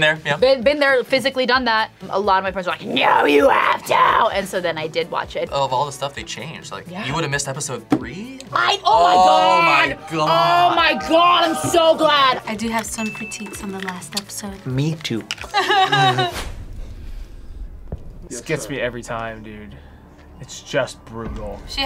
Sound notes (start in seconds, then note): 15.4 laughs; 15.4 chuckles